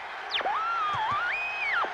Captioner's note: feedback